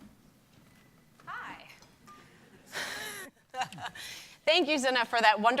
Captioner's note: laughing